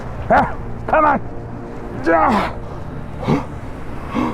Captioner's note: grunts